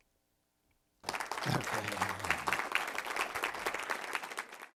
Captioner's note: audience applauds